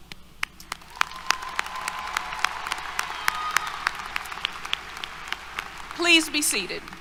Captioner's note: applause, Cheers